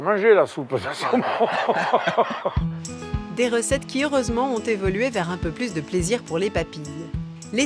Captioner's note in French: rires